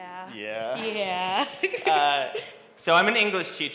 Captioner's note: giggles